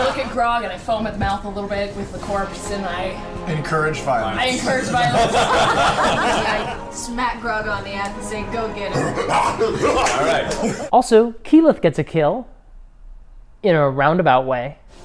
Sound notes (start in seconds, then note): 4.5 all laugh; 8.9 eager snarling